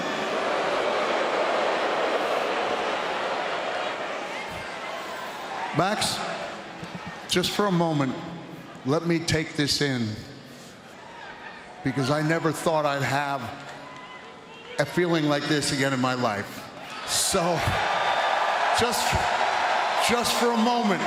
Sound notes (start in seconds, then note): 6.9 audience boos